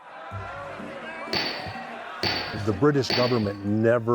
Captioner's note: gavel banging